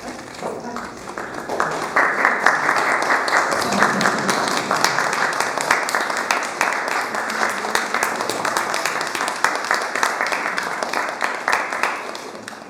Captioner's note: applause